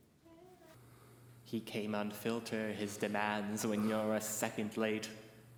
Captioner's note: sinister voice